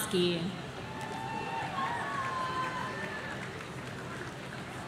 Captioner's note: audience cheering